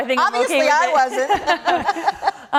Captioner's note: laughter